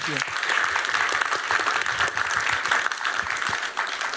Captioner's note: applause